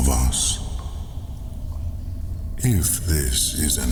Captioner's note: cave noises